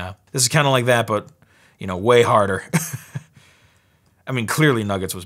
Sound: laughs

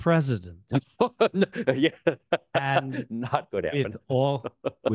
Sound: laughs

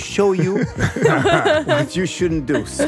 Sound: group laughing

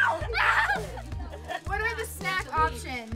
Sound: shrieks

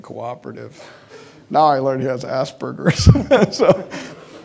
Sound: laughing

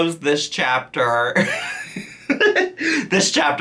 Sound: laughs

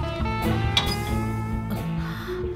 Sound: latch rattles

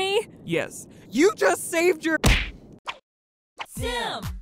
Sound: fist smacking

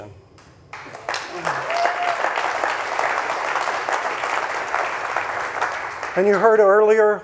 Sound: audience applauding; audience cheering

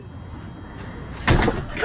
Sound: bang

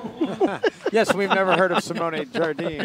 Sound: laughing

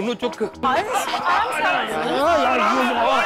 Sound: indistinct chatter

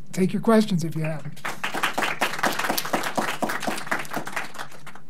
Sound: class applauds

